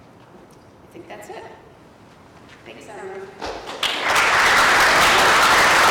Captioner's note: applause